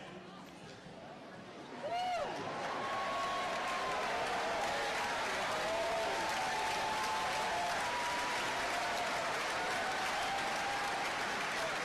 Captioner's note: applause